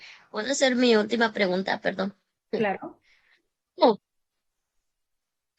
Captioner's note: women speaking in Spanish